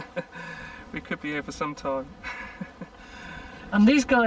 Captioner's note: laughs